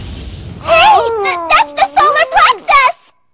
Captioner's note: Osaka groans